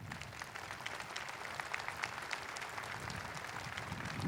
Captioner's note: audience applauding